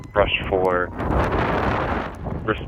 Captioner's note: wind howling